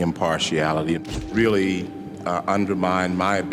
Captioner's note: shutter clicks